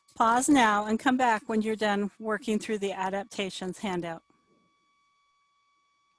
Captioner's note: none